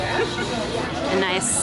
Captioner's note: laughs